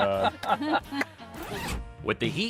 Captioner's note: zipper zipping